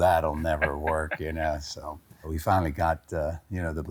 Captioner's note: laughs